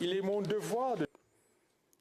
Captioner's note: speaking French